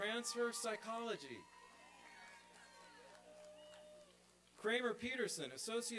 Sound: applause and cheering

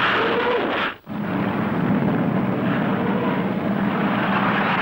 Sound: engines humming

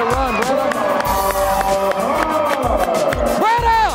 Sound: cheering

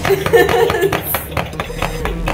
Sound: laughter

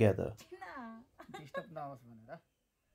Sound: laughter

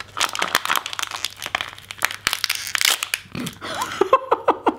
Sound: crunching; laughing

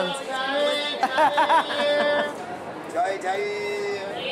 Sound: manic laughter

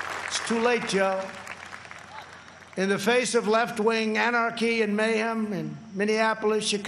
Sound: applause

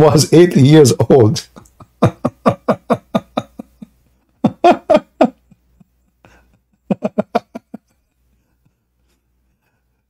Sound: Ketawa

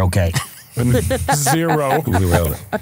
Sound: laughing

